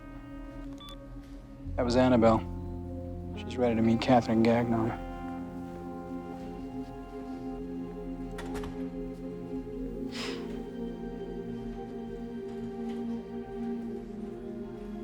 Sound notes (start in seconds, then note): 0.6 beeps; 8.3 door closes; 10.0 sighs